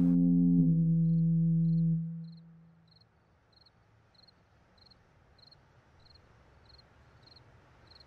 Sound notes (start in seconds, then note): 1.3 crickets chirping